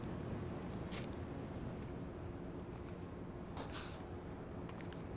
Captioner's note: footsteps shuffling